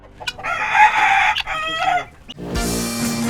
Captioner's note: rooster crows